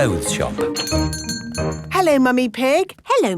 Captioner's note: doorbell chiming